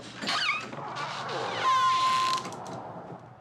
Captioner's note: door opens